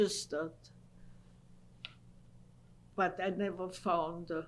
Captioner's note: pauses for 3 seconds